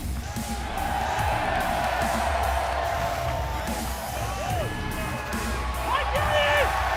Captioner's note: cheers & applause